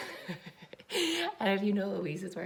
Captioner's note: chuckles